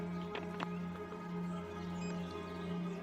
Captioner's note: phone beeps; suspenseful music